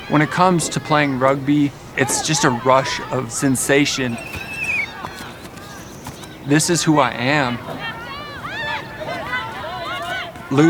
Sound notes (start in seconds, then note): 4.4 players chattering; 4.4 whistle blowing; 8.1 players chattering